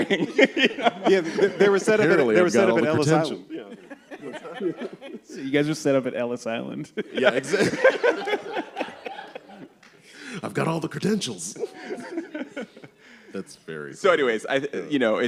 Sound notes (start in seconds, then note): 6.9 laughter